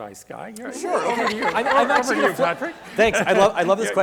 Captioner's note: laughs